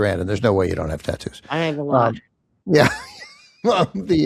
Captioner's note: chuckles